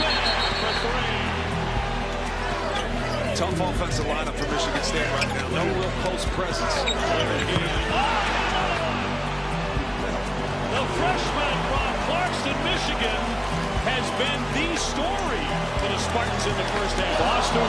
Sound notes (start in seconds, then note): 0.0 whistle; 7.5 scuffing